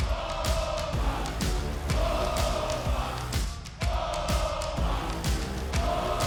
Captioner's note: audience chanting Oba; upbeat music